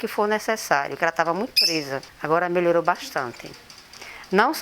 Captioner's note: bird tweets